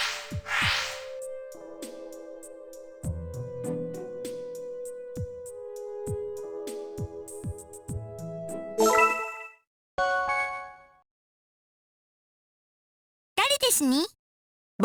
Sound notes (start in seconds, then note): 12.1 silence